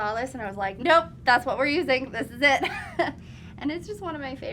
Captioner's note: laughs